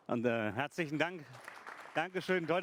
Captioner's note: applause